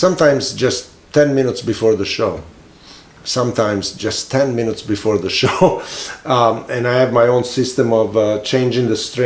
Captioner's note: laughs